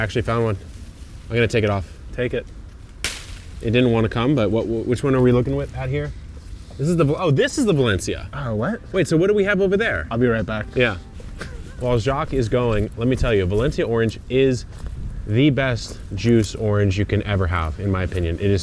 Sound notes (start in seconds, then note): 2.9 orange fruit snaps